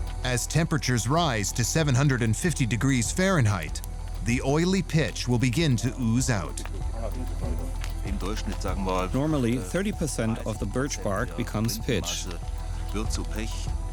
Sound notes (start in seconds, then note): 6.7 speaking in German; 9.1 voice-over